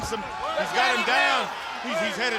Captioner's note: crowd clamoring